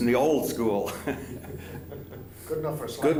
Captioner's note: laughter